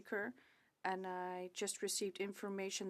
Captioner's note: speaking French